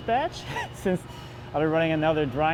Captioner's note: laughs